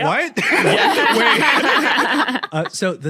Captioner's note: guests laughing